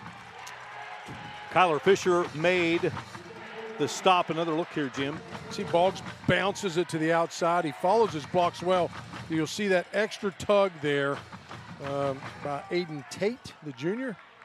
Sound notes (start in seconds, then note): 5.9 applause